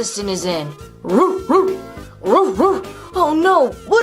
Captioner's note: barking